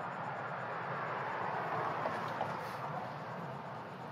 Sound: car whirs

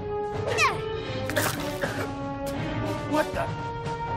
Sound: coughing

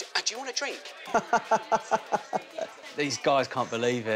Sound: laughs

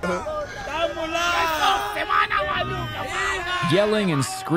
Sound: local speaking Portuguese; locals shouting in Portuguese

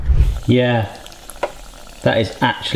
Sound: oil gently sizzling

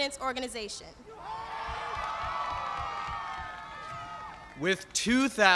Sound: cheers and applause

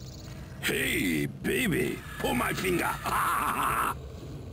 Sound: laughs

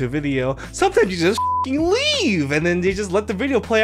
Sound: beep

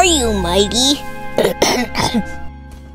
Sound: clears throat

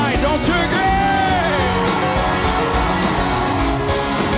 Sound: crowd cheering

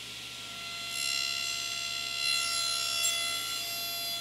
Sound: saw zings

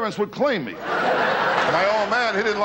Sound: laughing

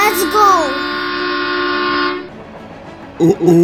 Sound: train whistle

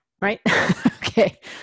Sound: laugh

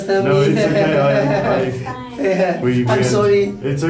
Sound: laughing

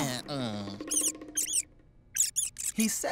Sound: groaning; squeaking

